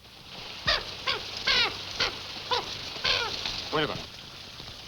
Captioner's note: bird squawking